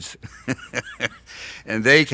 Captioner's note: laughs